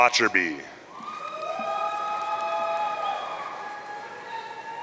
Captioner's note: audience cheering